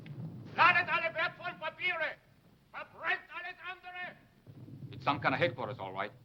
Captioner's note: shouting in foreign language